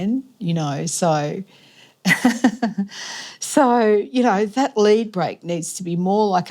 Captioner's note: chuckles